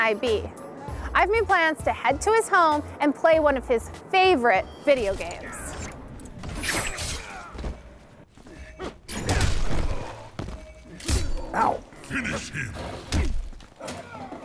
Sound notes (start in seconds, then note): 6.5 characters fighting and swords swishing; 10.2 thud